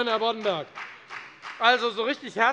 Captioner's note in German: Beifall bei der FDP